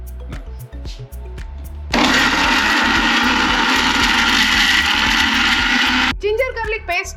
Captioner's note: mixer noise